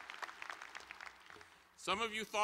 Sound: applause

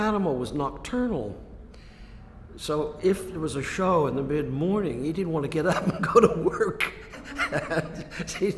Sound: laughs

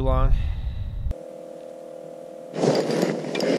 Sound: reel creaking

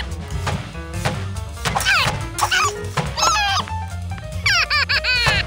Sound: grunting; laughing

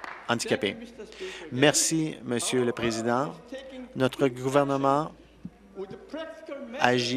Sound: applause

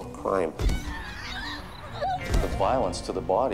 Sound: screaming

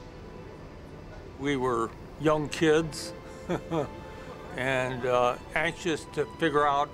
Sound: chuckles

